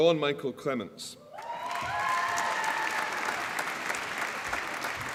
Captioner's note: applause